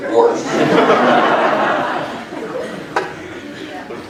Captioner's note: laughter